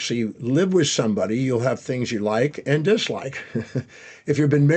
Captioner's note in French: rires